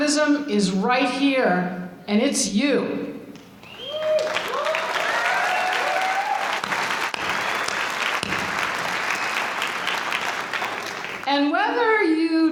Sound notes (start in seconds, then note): 3.9 applause